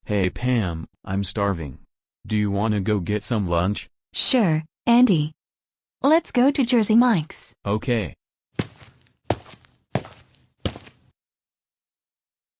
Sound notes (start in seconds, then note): 8.6 footsteps